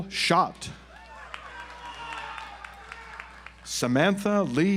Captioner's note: audience applauds